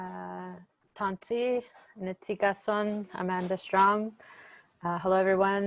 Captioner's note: speaking foreign language